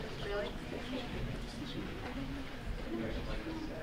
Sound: murmuring

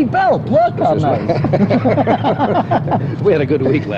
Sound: laughter

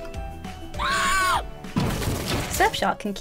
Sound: screams

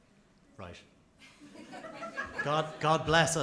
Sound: laughter

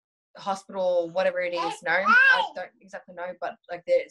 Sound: baby shouting

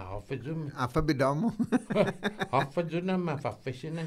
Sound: laughing

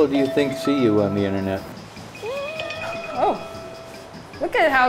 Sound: watch chiming

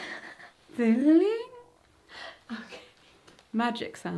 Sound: laughing

